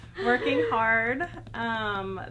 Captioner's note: laughing